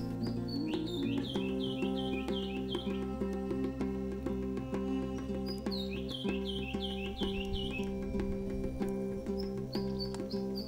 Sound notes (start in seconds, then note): 0.0 birds chirping; 0.0 chill music